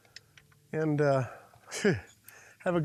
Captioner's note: laughs